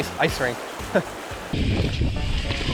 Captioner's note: chuckles